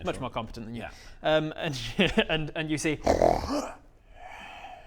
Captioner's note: grunt